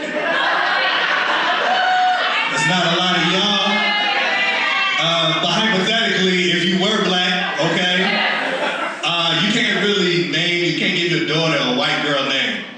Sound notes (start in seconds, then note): 4.7 audience Screams